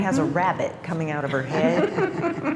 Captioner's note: laughter